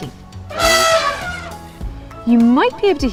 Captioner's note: elephants trumpeting